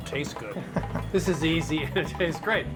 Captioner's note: laughs